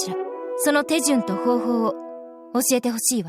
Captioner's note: none